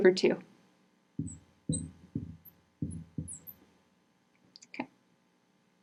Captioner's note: marker scratching